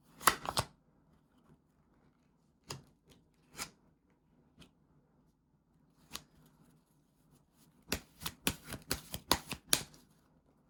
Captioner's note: drawing cards